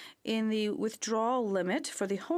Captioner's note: speaking French